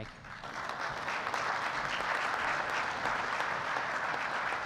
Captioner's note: audience applauding